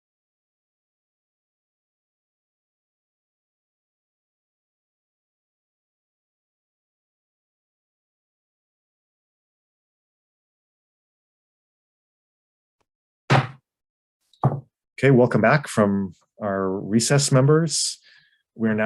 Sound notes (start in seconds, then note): 13.3 gavel bangs